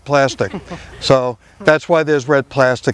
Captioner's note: visitors laughing